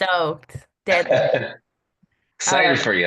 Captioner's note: laughs